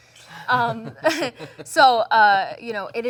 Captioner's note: both laugh